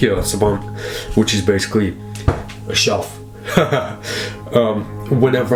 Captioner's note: laughs